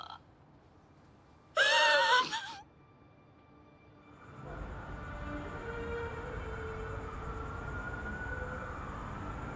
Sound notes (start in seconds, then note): 4.6 city sounds